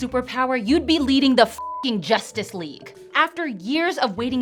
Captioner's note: beep